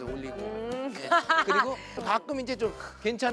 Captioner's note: phahahah